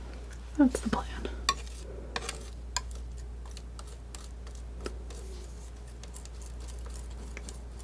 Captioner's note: tapping